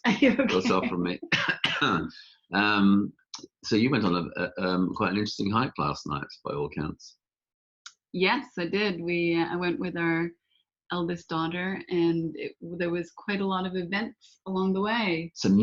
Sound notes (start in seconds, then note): 0.2 laughs; 0.3 coughs